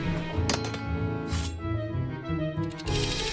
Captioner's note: metal tub creaks; blade clicks into place